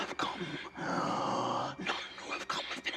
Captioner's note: breathes in deeply